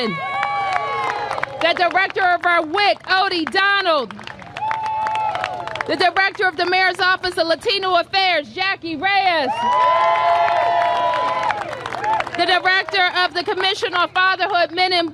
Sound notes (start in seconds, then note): 9.5 applause